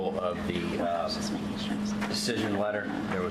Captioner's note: audio is very fuzzy